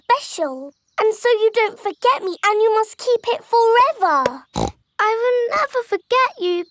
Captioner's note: snorts